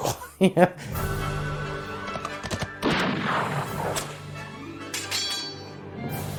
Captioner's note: horse galloping, gunshot, whip, sword clanging